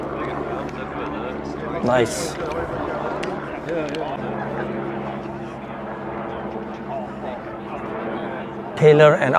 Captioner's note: people speaking